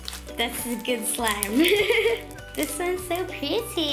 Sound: laughing

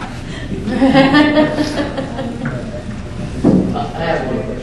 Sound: student laughs

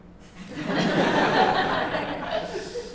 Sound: laughter

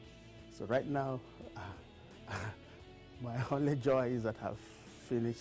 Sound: laughter

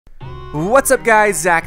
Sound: voiceover

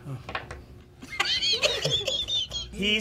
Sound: laughing

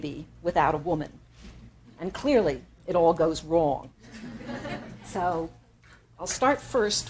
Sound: laughter

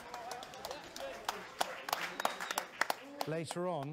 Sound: people applauding

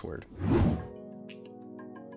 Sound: gentle music; whooshing

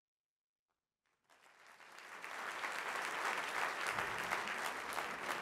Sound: applause

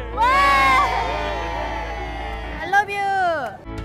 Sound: all cheering

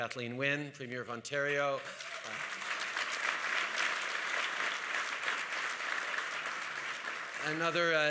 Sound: applause

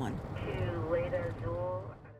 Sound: radio chattering

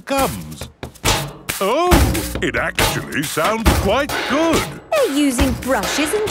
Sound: rhythmic clanging

